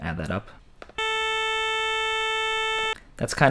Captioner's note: loud, Strong Buzz Sound